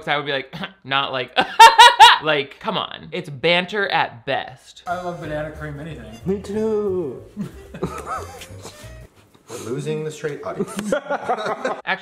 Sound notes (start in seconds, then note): 1.4 loudly laughing; 7.4 laughing; 10.5 laughing